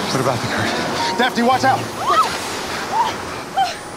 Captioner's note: Daphne screaming; gentle music